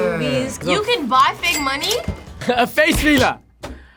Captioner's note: cash register dings